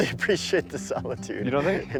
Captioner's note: laughing